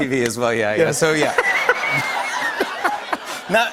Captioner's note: laughter